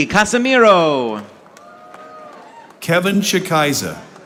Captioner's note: audience applauding